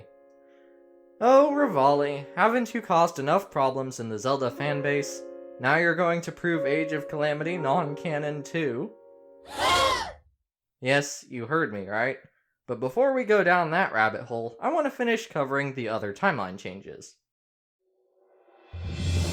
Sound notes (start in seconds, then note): 9.4 gasp sound effect